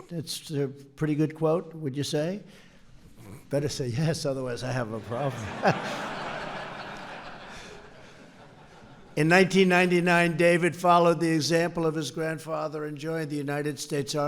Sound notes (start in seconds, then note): 4.9 laughter